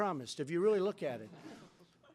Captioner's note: laughter